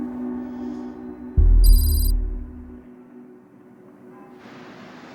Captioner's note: letters click